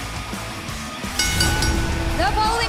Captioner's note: bell ringing